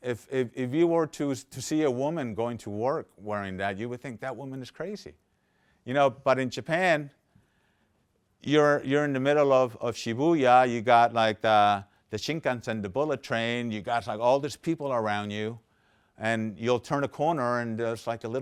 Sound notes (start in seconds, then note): none